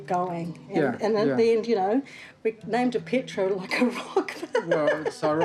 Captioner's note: laughs